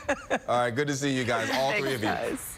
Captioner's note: laughter